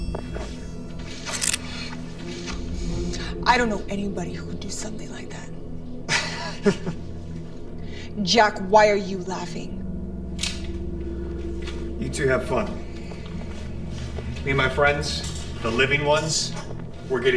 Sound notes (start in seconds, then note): 1.2 gun cocks; 6.1 Jack chuckles